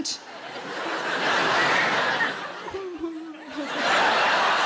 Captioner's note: audience laughing